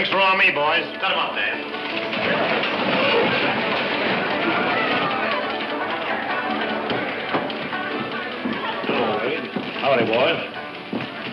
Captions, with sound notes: - Drinks are on me, boys. Step up there. (saloon music) (crowd talks loudly) - Howdy, boys.